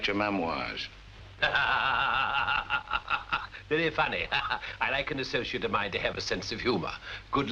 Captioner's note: laughter